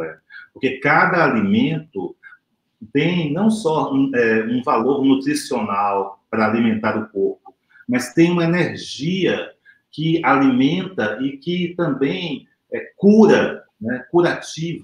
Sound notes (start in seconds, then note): 0.3 speaks portuguese